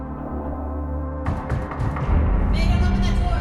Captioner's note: knocking on door